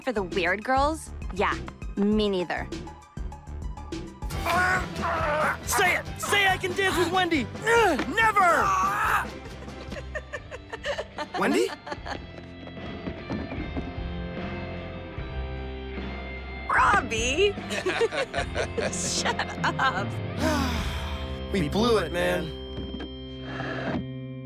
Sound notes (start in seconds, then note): 9.3 Wendy laughing in distance; 16.1 whispers; 19.2 both laughing